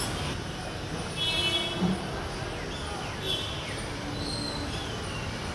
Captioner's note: sounds of the city in the background